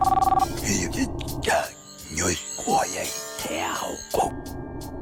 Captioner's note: alien language being spoken